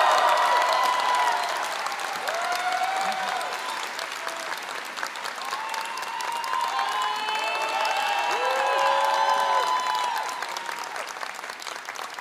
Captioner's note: applause